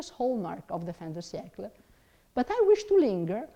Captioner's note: speaks in foreign language